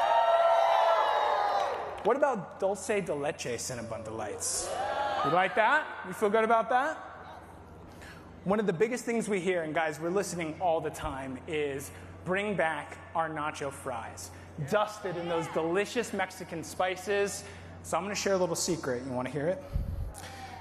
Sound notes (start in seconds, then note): 1.4 applause